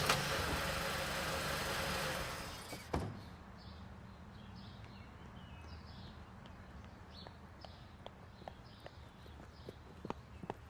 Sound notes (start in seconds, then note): 3.5 birds chirping